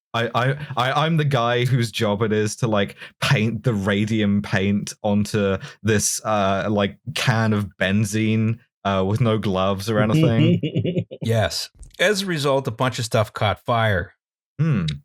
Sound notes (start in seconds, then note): 10.2 laughter